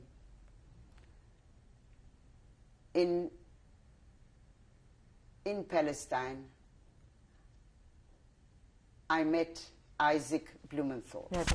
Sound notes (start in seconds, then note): 5.6 pauses for 3 seconds